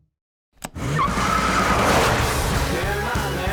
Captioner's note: tires squealing